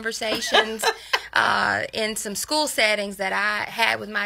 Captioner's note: laughs